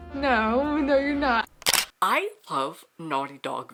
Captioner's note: camera shutter